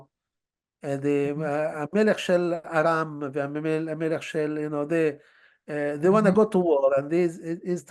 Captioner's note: hebrew